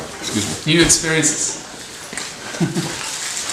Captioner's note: laughs